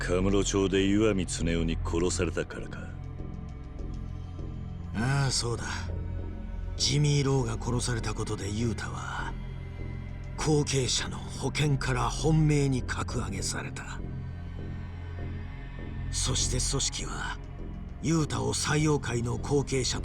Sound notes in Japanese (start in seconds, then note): none